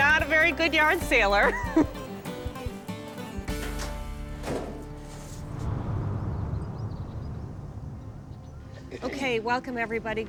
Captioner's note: chuckles